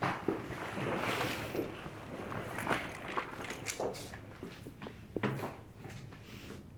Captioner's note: suitcase rolls; heels clacking